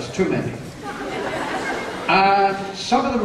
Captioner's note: laughter